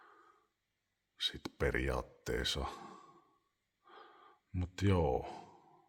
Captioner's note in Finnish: huokaus